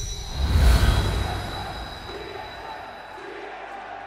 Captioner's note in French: Foule